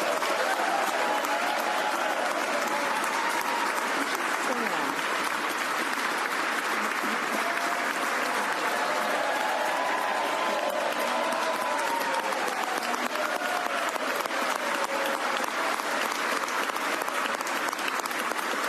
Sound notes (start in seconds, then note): 10.8 applause